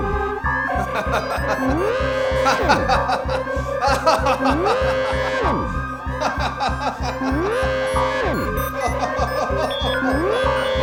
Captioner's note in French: Rires